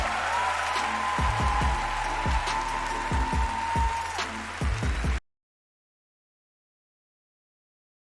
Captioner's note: cheering